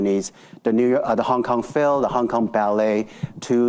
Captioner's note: none